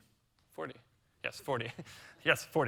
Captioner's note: chuckles